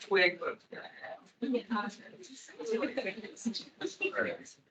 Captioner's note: attendees chattering